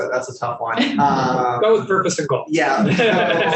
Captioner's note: panelists laughing